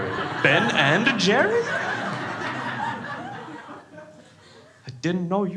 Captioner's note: crowd laughs